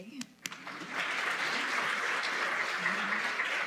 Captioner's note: applause